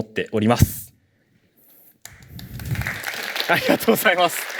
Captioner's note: applause